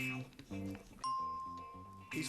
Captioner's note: bell rings